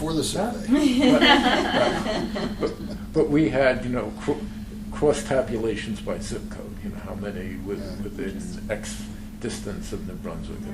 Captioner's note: laughter